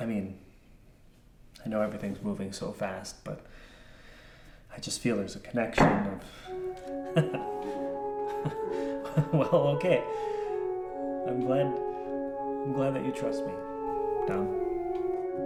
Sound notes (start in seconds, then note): 5.8 Dom taps once; 6.9 laughs